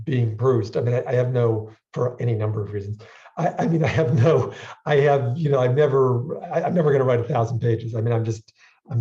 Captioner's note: chuckles